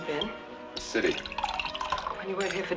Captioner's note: liquid sloshing